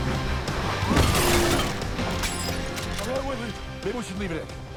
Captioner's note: glass shattering